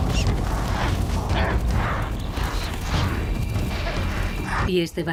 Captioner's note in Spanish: gemido